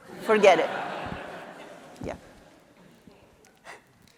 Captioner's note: audience laughing